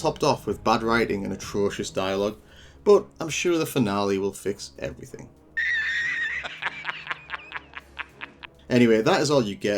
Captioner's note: laugh